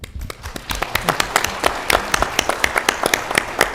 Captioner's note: applause